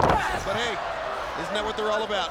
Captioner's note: wrestlers grunting